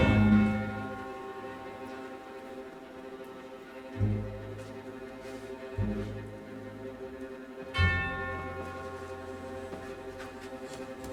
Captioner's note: St. Peter's bell begins to toll